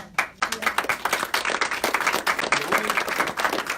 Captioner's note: applause